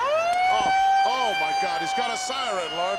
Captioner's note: siren blaring